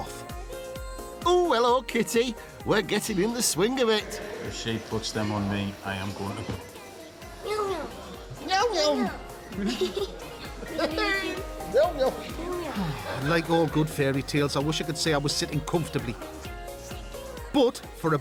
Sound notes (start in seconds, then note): 9.2 chuckles; 10.3 giggles; 13.7 Si sighing